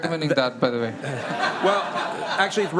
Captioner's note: laughter